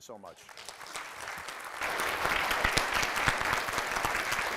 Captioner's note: audience applauding